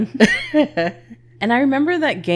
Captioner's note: laughs